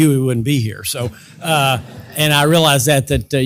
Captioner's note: laugh